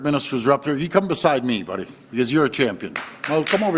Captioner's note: applause